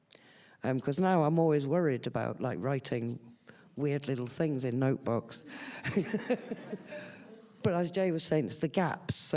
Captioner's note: laughs